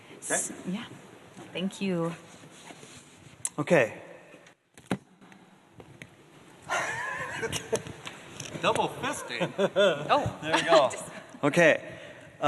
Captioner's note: laughs